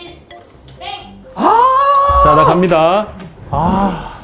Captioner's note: neighbors going mad